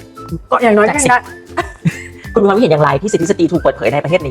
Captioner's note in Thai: เสียงหัวเราะ